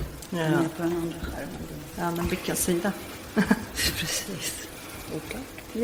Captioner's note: speaking in foreign language